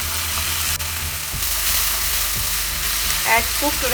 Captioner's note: frying sound